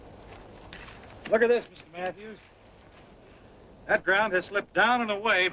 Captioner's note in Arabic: none